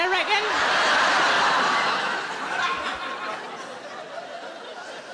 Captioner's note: audience laughing